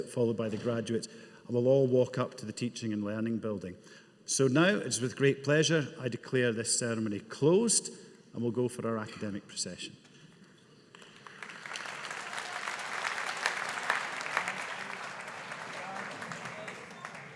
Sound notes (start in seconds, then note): 10.9 audience applauding